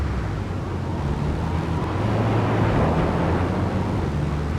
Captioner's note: car engine roaring